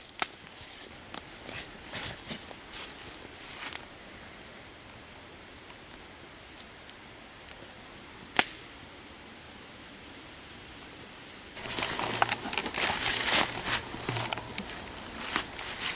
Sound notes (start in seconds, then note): 1.4 leaves crunching; 8.4 fire crackles; 11.6 leaves crunching